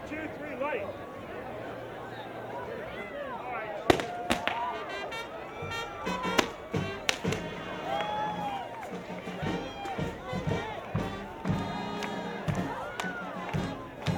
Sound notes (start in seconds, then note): 4.1 banging; 5.3 acoustic music; 8.1 cheering